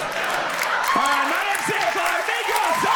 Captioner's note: audience laughs and applauds